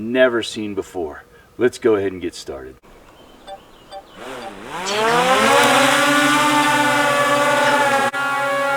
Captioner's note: buzzing from drone